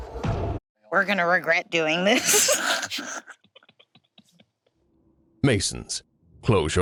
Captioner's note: laughs